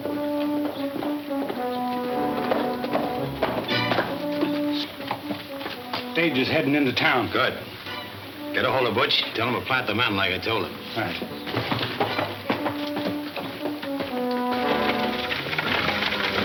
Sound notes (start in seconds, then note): 0.2 hooves heavily clunking; 10.0 hooves heavily clunking; 13.5 wagon clanking